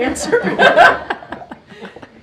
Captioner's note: laughter